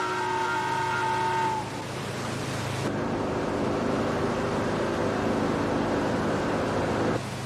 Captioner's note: boat horn blowing